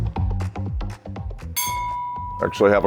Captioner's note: upbeat music; bell dinging